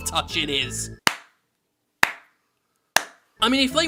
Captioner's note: slow clap